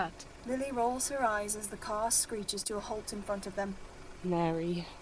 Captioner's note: engine hums